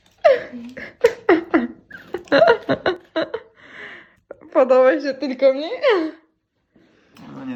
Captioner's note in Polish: śmiech